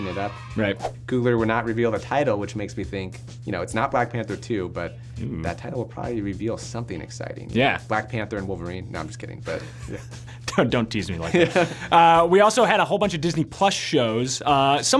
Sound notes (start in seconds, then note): 9.5 laughs